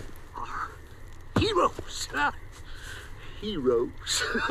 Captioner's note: laughs